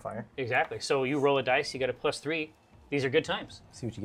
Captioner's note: none